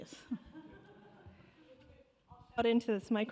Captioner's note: laughter